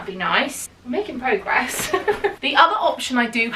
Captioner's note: laughs